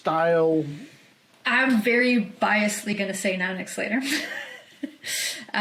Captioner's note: chuckles